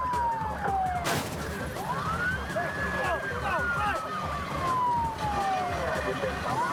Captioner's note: sirens blaring; vehicles thudding